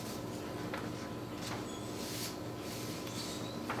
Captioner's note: papers rustling